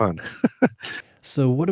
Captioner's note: laughs